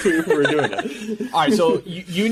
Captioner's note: laughing